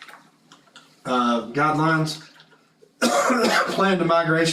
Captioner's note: cough